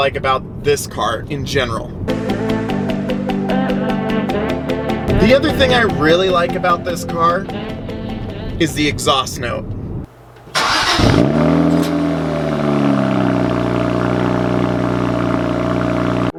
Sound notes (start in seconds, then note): 2.1 upbeat music; 10.4 engine revving